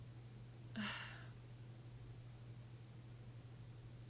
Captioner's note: sighing